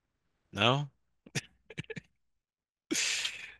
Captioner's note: laughing